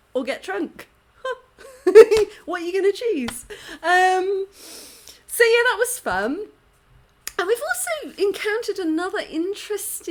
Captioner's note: laughing